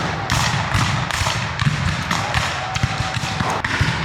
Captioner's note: guns fire